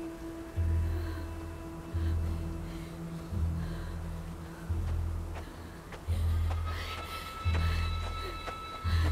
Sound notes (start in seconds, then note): 4.7 footsteps aproaching